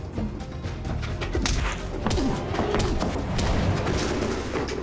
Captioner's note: punching